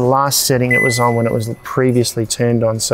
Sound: fridge beeps

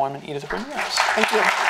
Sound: applause

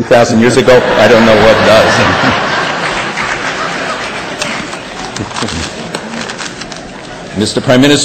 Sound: laughter

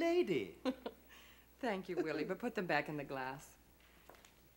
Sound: Gerta laughing

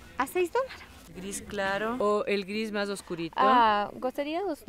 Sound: in Spanish

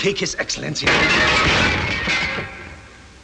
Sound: loud noise of glassware crashing

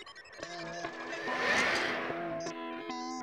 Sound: whirring

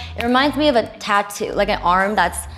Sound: none

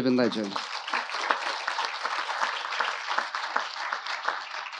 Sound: audience applauding

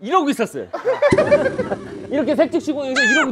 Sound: laughing

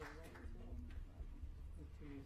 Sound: applause

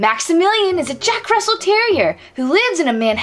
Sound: none

